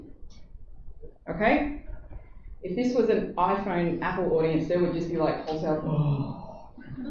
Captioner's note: groan